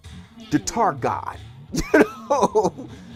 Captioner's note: laughs